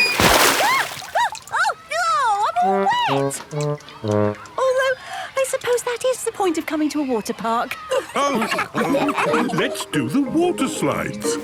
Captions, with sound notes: Ahh! Ahh! Oh, I'm all wet! Although, I suppose that is the point of coming to a water park! (all laughing) - Let's do the water slides!